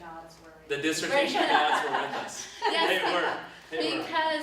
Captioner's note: both laugh